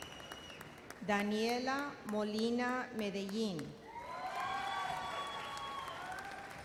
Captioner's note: audience cheers